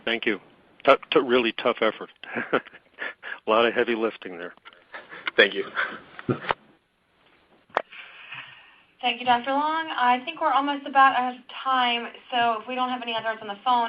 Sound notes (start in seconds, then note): 2.2 chuckles